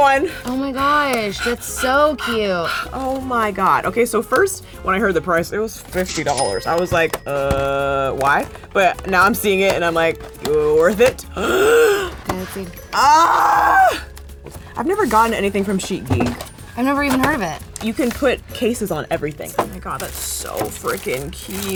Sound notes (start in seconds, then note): 0.0 breathing heavily; 6.0 cash sound; 11.2 gasping